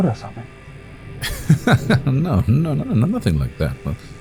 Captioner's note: laughing